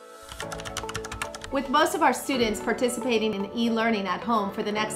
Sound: typing Sound

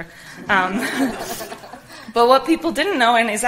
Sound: audience laughs

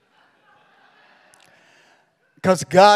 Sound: congregation laughing

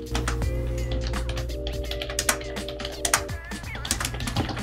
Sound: keyboard clicking

